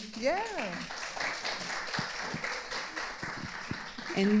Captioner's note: audience applauding